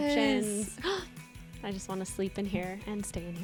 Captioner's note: gasps